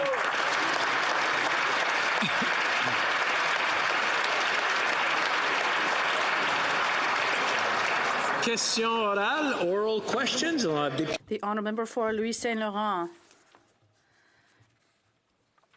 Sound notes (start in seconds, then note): 2.9 applause; 12.5 speaking French